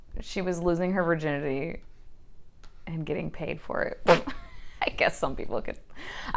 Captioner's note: spit laughs